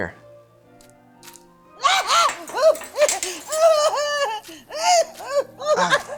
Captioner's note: Mrs. Seawinner screams